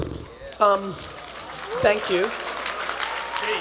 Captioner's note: attendees applauding